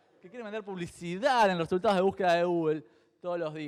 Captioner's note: none